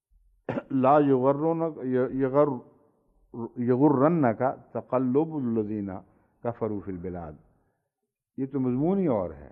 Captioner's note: Arabic